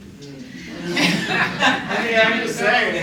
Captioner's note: laughter